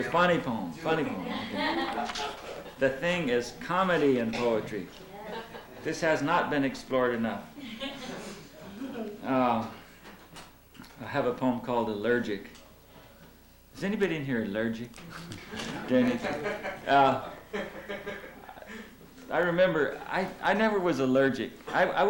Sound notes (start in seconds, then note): 1.2 laughter; 7.6 laughter; 17.0 laughter